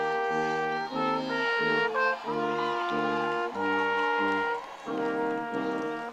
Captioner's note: audience cheering